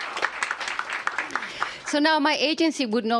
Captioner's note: applause